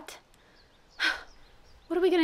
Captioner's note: exhale